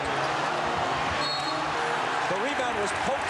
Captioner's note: whistle blows